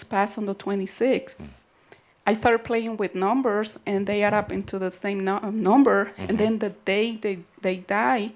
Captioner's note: some chuckles